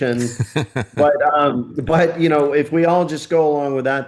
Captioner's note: laughing